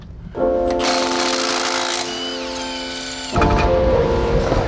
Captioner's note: wrench buzzing